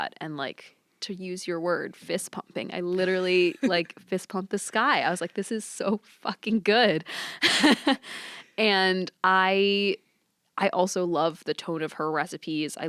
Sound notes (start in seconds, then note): 7.4 laughs